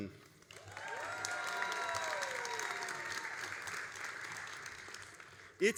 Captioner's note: all applauding and cheering